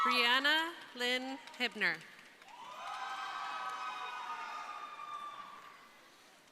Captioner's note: crowd cheering; crowd cheering